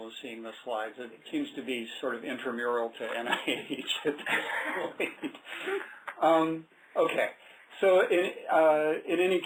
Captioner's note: laughter